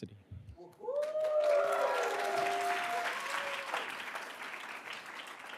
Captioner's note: attendees cheering and applauding